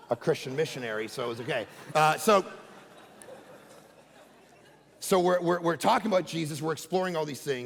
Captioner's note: congregation laughing